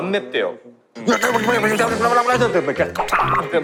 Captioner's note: Sound of wasabi being ground roughly